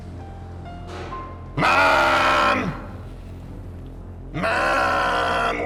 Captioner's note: soft clang